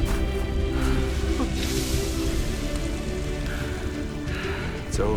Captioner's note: panting; panting